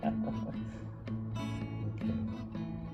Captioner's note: laughs